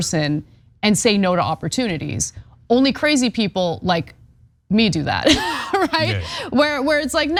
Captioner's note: laugh